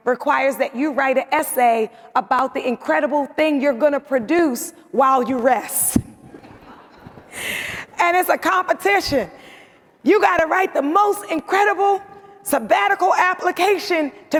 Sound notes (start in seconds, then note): 6.7 audience laughs